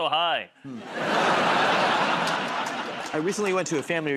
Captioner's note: laughter